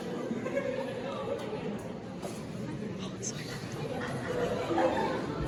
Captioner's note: concert Chorus laughs; concert Chorus crescendos into laughter